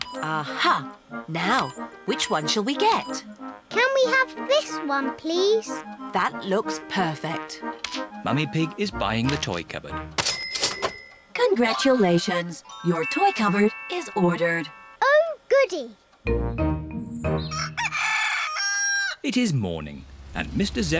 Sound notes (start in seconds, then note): 17.4 cockerel crows